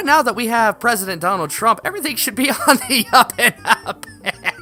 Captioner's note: laughs hysterically